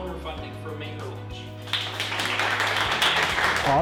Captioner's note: applause